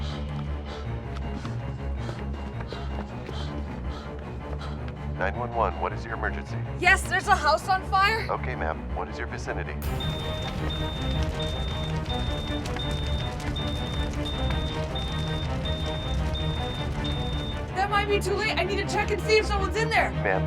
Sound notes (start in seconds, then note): 0.0 dramatic tense music; 0.0 jogger panting; 9.8 smoke detector beeping; 9.8 fire crackling